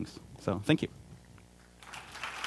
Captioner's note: clapping